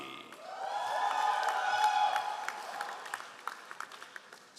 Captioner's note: all applauding